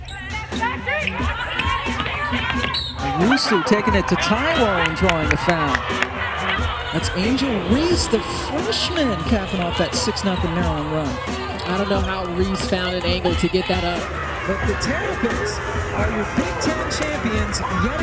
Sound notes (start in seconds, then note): 0.7 cheering and yelling